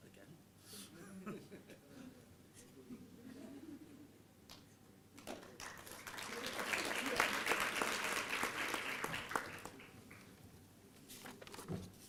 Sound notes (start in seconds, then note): 6.9 applause